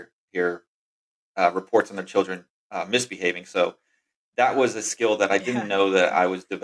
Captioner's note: <laugh>